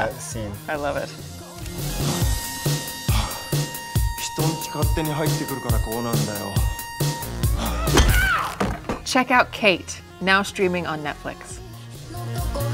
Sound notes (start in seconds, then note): 4.3 speaks foreign language